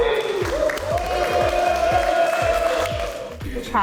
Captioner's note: cheering